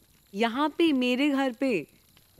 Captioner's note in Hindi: none